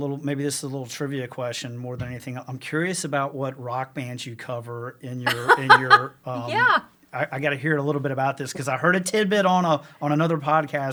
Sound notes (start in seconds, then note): 5.2 laughs